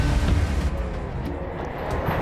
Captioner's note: engine revving